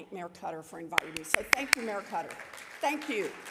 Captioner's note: claps